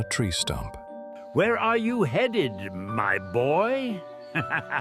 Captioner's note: laughs